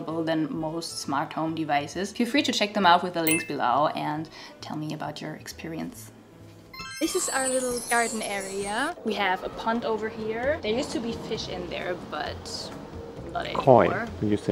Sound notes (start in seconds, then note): 3.2 bright chiming; 6.7 bell chimes